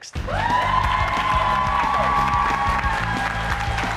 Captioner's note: cheers and applause